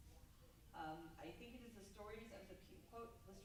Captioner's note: stammers